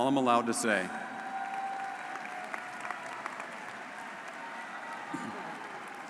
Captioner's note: audience cheering and applauding